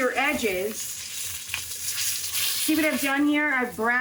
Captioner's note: pan sizzling